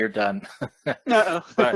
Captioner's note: chuckles